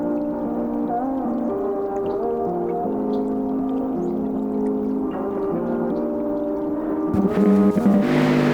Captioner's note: water burblings and bird chirpings